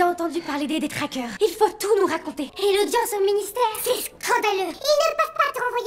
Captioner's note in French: voix accélérée